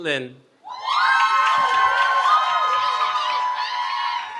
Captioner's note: cheering